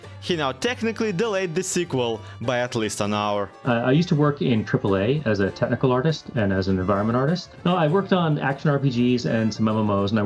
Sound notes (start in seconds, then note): none